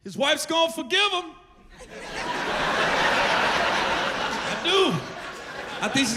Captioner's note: laughter